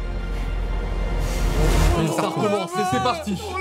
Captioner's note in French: plainte et panique générale des applis